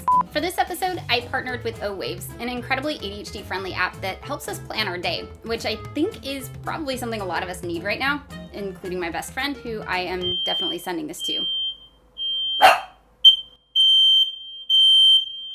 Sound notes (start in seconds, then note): 10.2 fire alarm beeping; 12.6 dog Bark; 13.2 fire Alarm Beeping Louder